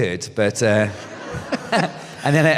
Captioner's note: laughter